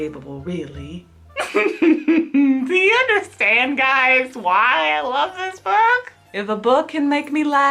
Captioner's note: laughs